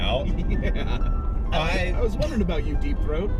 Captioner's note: gags